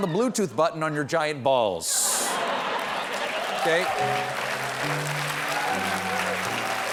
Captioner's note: applause